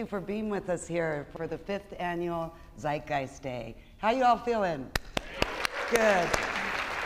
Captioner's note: claps hands; applause